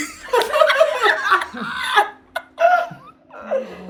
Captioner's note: laughing